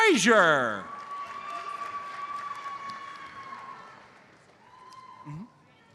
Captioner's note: audience cheers and applauds